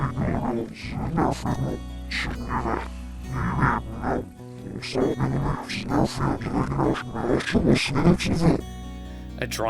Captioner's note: gentle music; speaking in foreign language